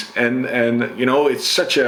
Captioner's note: none